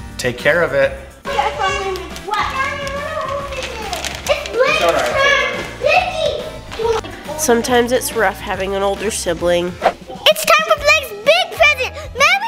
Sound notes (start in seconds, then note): 2.1 overlapping chatter